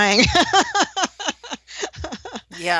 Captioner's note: laughter